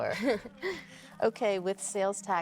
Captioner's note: Claire chuckles